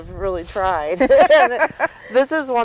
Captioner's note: laughter